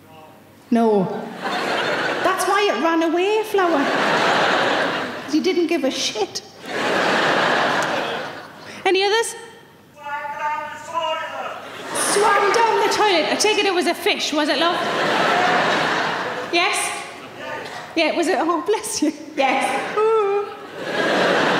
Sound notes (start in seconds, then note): 6.6 audience laughing; 15.4 audience laughing; 19.9 imitates crying